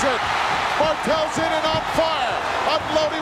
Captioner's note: audience cheering